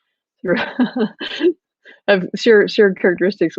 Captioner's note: laughs